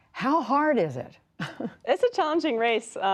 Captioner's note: laughter